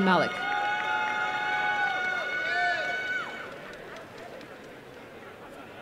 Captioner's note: applause and cheering